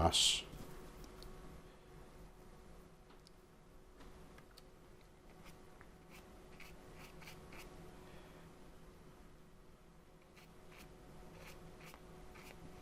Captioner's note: silence